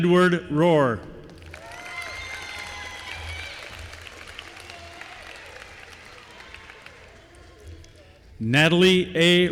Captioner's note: applause